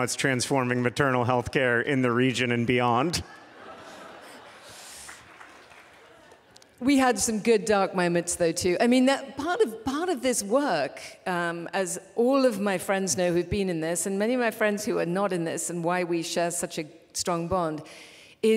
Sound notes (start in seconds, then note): 3.1 laughter